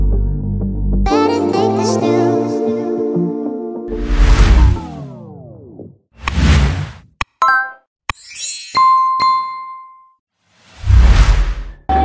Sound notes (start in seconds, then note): 4.4 buttons click; 8.4 bell rings